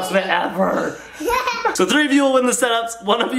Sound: laughing

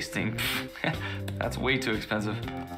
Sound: scoffs

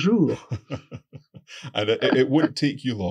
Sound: laughs

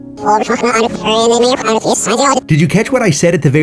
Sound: audio rewinds

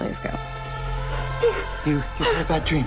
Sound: sobbing

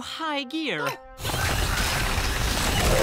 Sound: rumbling, whirring

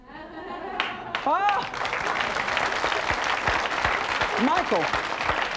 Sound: audience applauding

